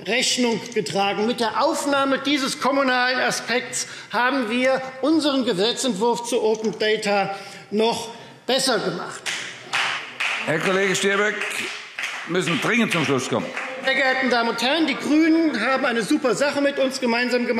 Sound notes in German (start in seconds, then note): 9.2 Beifall Freie Demokraten